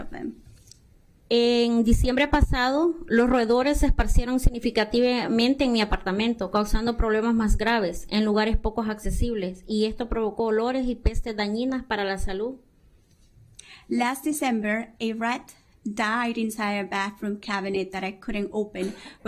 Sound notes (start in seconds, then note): 6.6 speaking spanish